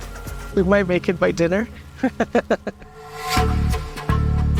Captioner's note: laughs